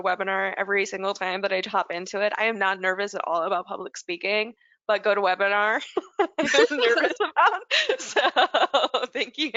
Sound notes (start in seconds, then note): 6.2 laugh